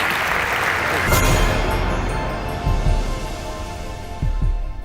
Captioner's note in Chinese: 掌聲